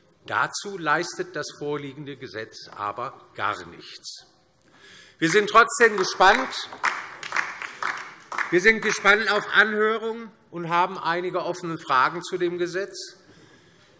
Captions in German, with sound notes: Dazu leistet das vorliegende Gesetz aber gar nichts. [Beifall DIE LINKE] Wir sind trotzdem gespannt auf die Anhörung und haben einige offene Fragen zu diesem Gesetzentwurf.